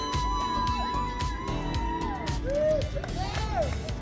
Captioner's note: crowd cheering